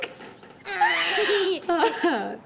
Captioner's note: laughing